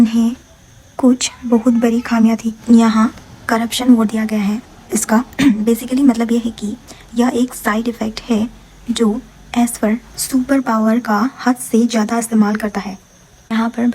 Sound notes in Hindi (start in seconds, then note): 5.3 गला साफ़ करने की आवाज़